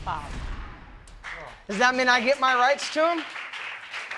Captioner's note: audience clapping